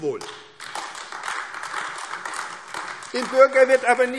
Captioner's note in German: Beifall AfD